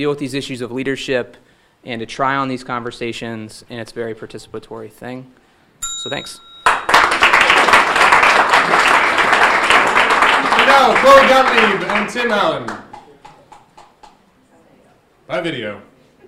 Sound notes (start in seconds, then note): 5.8 bell dinging; 6.6 audience applauding